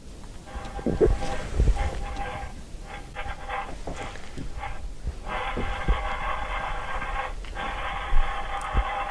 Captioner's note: strange sound on the baby monitor